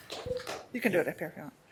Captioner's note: applause